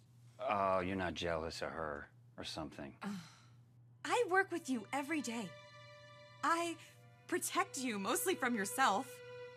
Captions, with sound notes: Oh, you're not jealous of her or something? (Sandy sighs) - I work with you every day. I protect you mostly from yourself.